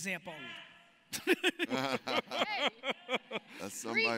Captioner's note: laughs